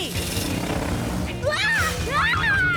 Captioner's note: hissing